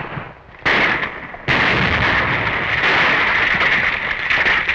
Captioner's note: explosion